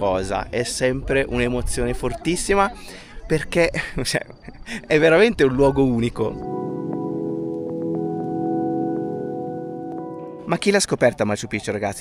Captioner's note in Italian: risate